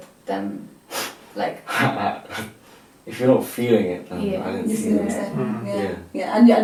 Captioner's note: chuckles